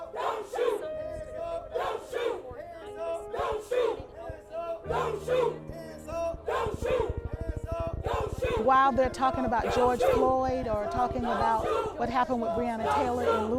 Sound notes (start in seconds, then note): 0.0 crowd; 8.0 crowd